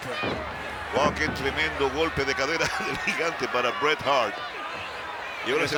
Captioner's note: laugh